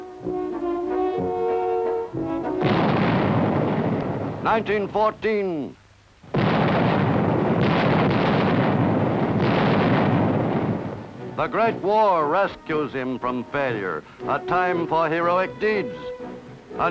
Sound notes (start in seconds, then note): 2.6 explosion booms; 6.3 explosions booming